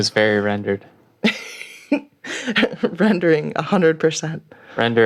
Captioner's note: laughing